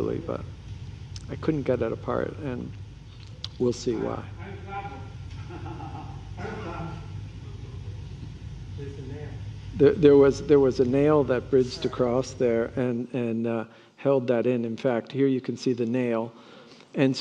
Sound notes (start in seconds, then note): 4.4 speaks faintly; 5.3 laughing